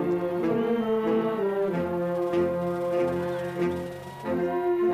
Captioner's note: applause